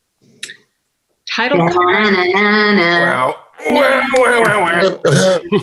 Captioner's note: actors humming